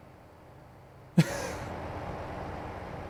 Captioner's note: laugh